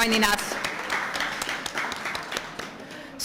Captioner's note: applause